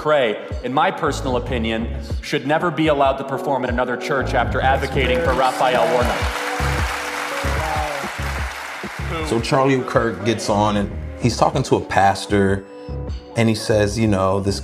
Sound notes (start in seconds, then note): 4.9 audience applause